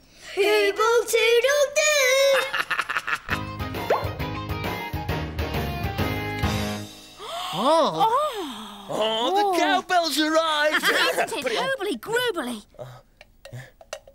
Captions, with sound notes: - Hoobletoodledoo! (laughs) (upbeat music) (gasping) - The cow bells arrived! - Isn't it Hooblygroobly?